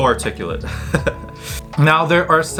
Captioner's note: chuckles softly